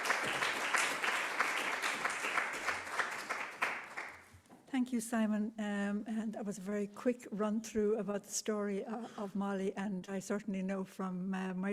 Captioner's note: applause